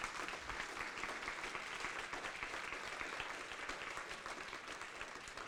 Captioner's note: applause